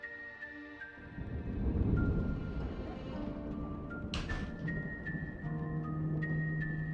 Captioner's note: thunder rumbles